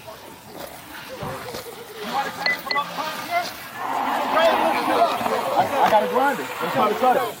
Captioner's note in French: groupe conversant indistinctement